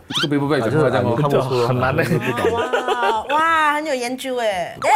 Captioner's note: laughs